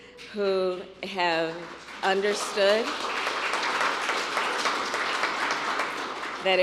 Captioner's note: applause